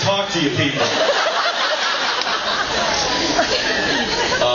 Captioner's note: laughs